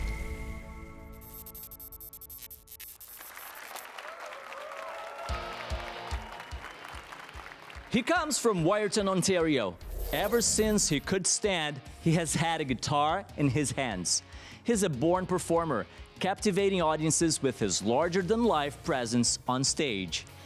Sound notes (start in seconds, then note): 3.2 applause and cheers